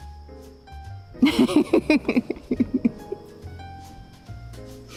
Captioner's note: laughing